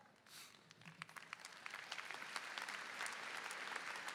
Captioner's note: applause